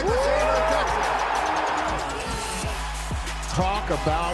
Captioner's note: cheering